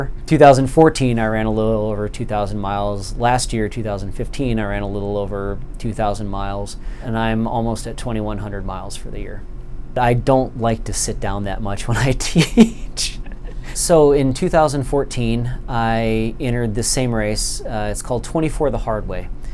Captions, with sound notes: In 2014 I ran a little over 2000 miles Last year in 2015 I ran a little over 2000 miles And I'm almost at 2100 miles for the year I don't like to sit down that much when I teach (laughter) So in 2014 I entered the same race It's called "Twenty-four the Hard Way"